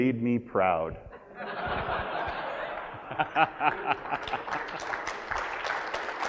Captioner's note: audience laughs and applauds